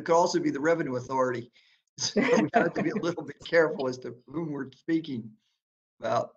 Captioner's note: laughter